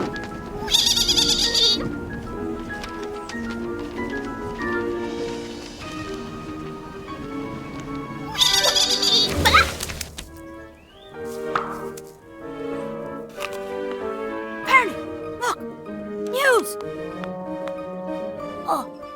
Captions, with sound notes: (Little Baa squeals in fun) - Ferny look, news.